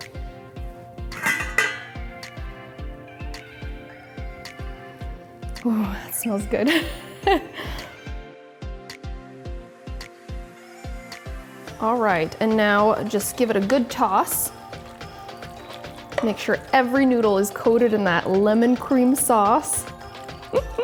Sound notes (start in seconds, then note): 0.3 relaxed music; 7.7 laughs